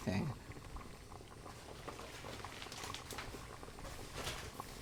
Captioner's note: soft bubbling